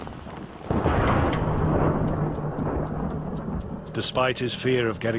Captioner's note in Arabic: تصفيق الرعد